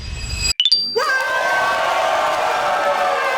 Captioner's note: applause